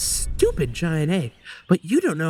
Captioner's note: breathes in